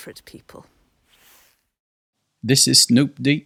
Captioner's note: Snoop Dogg impression